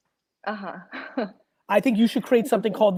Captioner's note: laughs